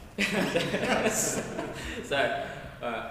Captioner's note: group laughs